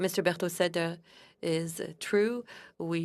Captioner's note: speaking French